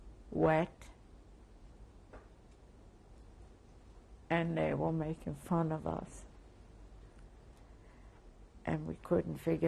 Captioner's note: pauses for 3 seconds